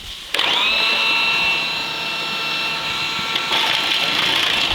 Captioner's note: food processor whirring; brussels sprouts rattling